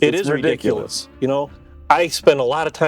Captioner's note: laughing